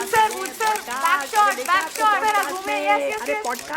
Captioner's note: camera clicks